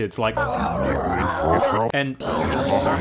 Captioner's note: eldritch Garbling